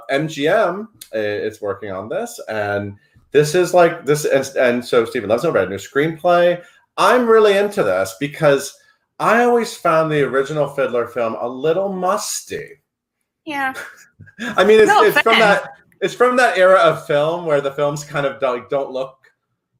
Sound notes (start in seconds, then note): 13.7 laughs